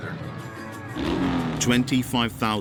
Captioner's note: engine revving